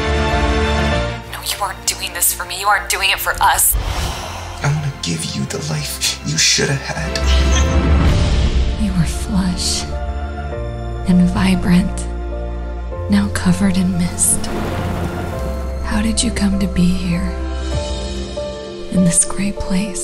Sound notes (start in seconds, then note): 1.0 women over the phone